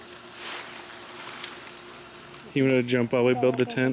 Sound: tent rustling

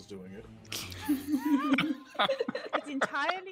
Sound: all laughing

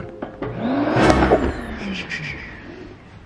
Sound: loud whirring

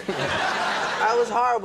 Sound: audience laughs

